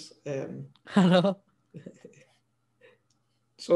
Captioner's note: both chuckle